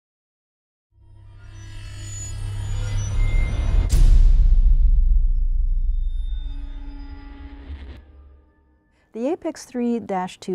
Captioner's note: sound Effects